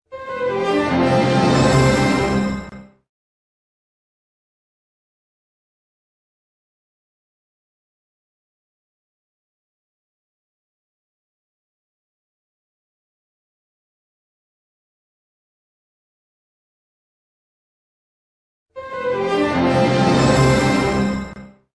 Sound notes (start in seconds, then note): 0.1 orchestral music plays; 3.9 silence; 18.8 orchestral music playing